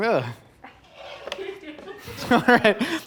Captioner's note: crew laughing